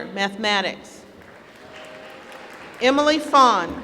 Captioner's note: applause